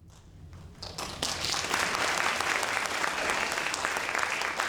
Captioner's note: audience applauding